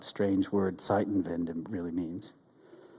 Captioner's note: speaks in German